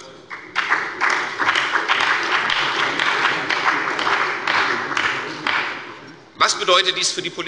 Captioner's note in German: Beifall bei der CDU und dem BÜNDNIS 90/DIE GRÜNEN